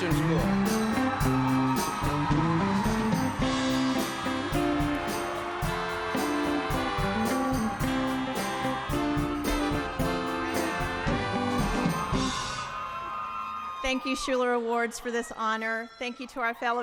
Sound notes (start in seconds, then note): 4.5 applause